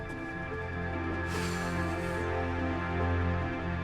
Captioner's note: sighs